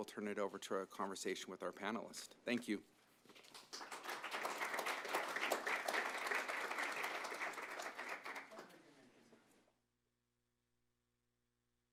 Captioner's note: applause